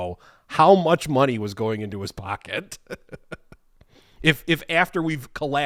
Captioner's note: chuckling